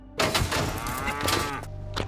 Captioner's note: steer bellows